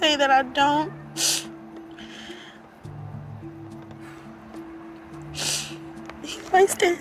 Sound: sniffles

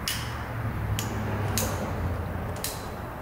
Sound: clicking

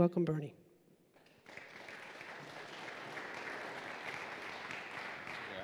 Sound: applause

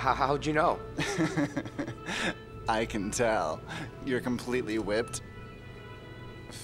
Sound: laughs

